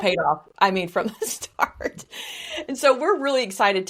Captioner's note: laughs